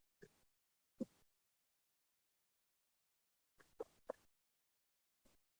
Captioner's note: silence